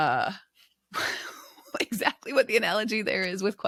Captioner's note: chuckles